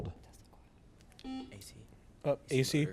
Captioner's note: buzzer beeps